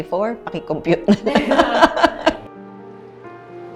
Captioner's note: laughs